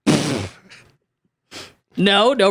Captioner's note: laughing